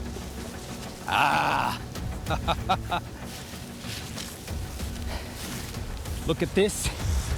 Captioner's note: laughing